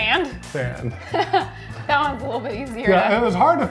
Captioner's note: laughs